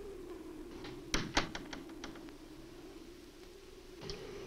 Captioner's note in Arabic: يغلق الباب